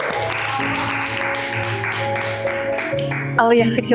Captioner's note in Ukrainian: оплески